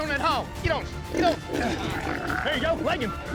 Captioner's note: hog snoring